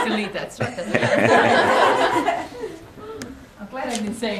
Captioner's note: laughter